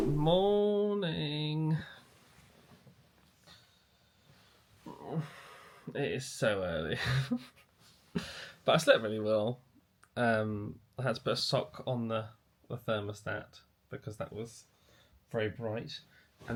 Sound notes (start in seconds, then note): 5.0 groans; 7.0 chuckles